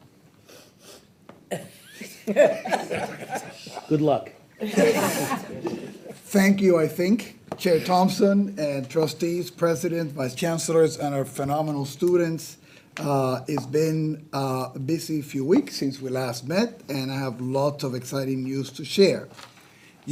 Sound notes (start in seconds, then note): 1.9 attendees chuckle; 1.9 laughing